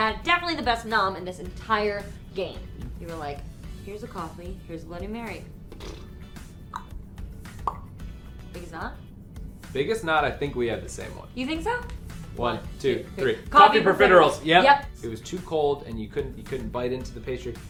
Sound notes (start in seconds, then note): 5.5 blows raspberry; 6.7 clicks tongue